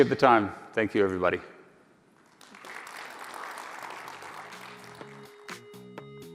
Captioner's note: applause